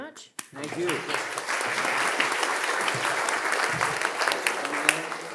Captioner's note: audience applauding